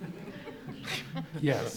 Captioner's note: audience laughs